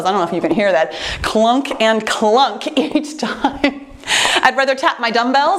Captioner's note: laughs